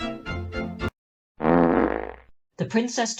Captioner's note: juicy fart